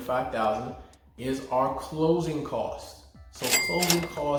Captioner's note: register rings